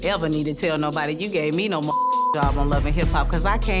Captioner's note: beep